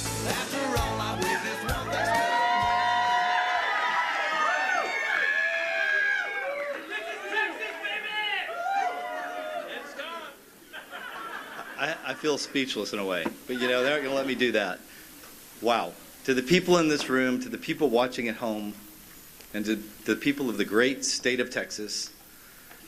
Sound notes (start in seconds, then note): 7.0 cheers; 13.5 laughter